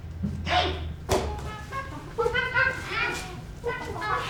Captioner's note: monkey sounds